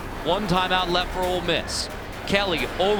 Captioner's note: voiceover